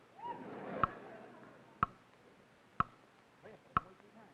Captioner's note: clock ticking; crowd laughing; clock ticking